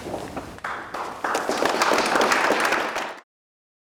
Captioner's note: applause